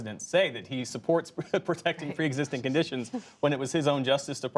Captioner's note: laughs